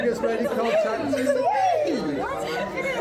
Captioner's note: crowd chattering